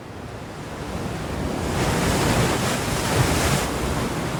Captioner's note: waves crashing